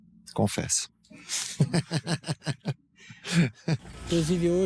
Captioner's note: laughter